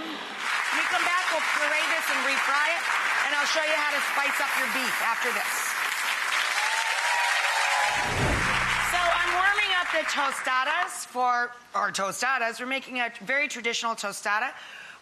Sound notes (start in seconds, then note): 0.0 applause; 6.2 cheers